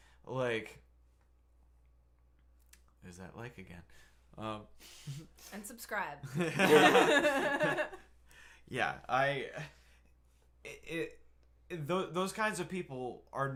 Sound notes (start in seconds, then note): 6.5 laughing